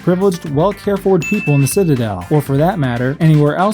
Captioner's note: ding